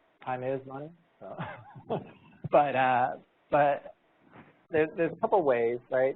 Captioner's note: chuckling